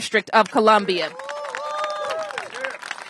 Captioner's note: applause